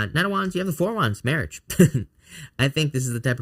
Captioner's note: chuckles